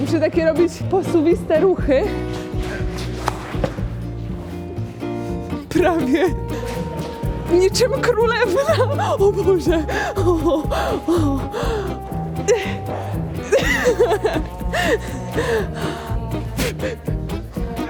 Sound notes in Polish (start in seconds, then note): 13.5 śmiech